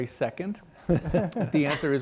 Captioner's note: panelists chuckle